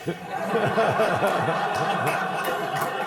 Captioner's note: laughter